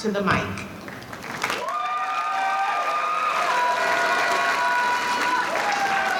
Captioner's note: audience cheering